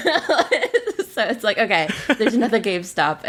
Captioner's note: laughs